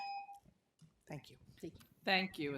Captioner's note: tone